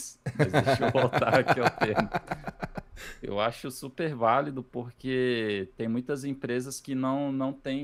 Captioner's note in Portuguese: risadas